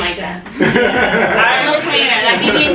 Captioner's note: laughter